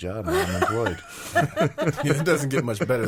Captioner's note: laughing